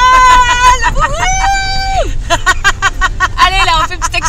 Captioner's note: laughs